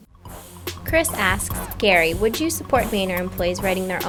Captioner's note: voiceover